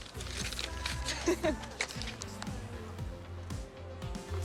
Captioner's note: laughs